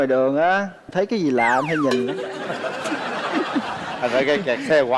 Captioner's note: laughing